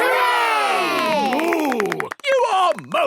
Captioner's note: applause